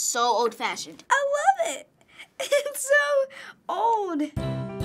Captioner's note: laughs